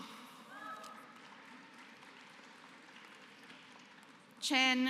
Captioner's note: applause